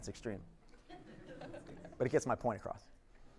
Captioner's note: audience laughs